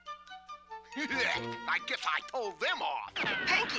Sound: laughs

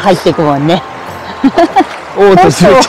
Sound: laughs

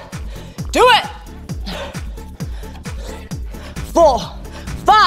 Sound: gasping

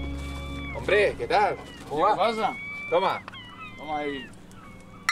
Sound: men chatting in Spanish

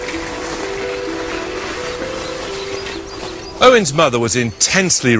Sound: noises of the bike on the gravel, with gentle background music

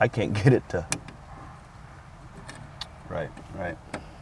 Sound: solenoid clicks

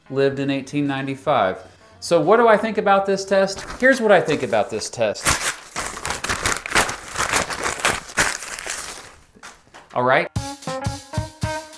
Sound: rips up test

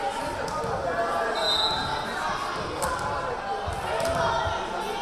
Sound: whistle blaring

